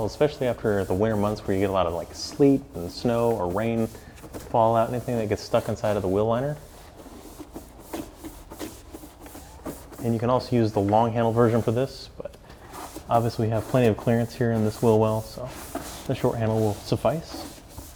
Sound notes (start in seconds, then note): 6.5 scratching